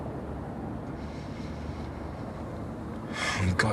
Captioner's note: he inhales, softly